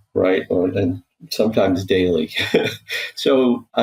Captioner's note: chuckling